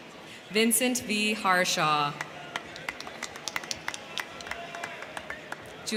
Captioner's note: crowd cheering